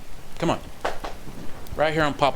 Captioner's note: pats leg